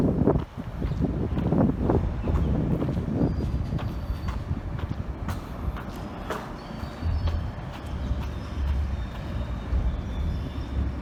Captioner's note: sounds of footsteps